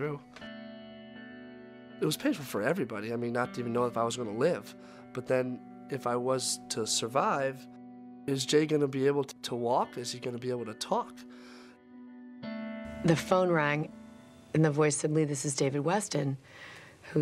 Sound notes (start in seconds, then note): none